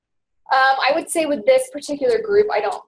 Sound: voiceover

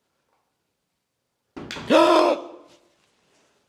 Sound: banging

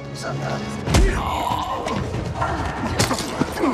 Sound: grunting

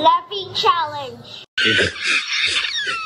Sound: laughs

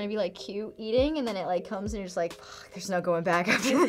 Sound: sighs; laughs

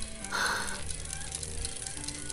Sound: sighs

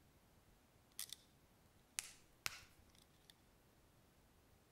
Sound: cutting sound

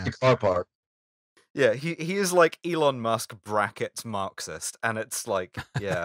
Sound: laughter

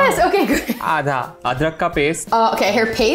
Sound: speaking in Hindi

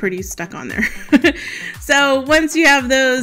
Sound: laughs

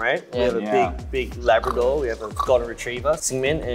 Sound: imitates pig

